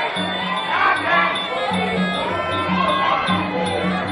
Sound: yelling

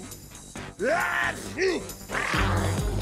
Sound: sneezes; growling

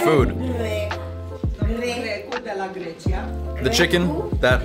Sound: conversation in Romanian

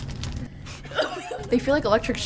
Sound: laugh

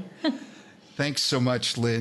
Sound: laughing

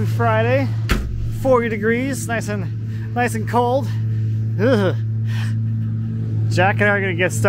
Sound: groans

